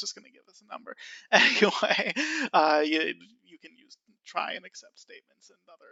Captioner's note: laughs